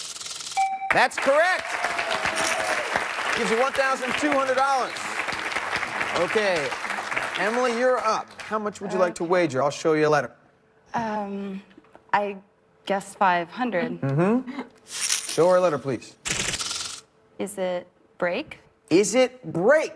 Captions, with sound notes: Let's see if it's PRISON. [chimes] That's correct! [applause] Gives you $1,200. Okay, Emily. You're up. How much would you like to wager? I'll show you a letter. I guess 500. Mm-hmm. Show her a letter, please. Is it BREAK?